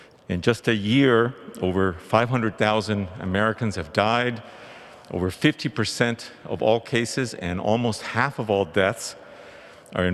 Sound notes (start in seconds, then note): none